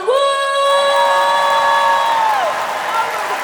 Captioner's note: applause; cheering; applause